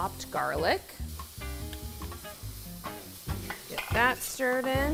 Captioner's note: pan sizzling